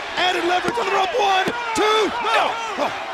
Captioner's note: countdown thudding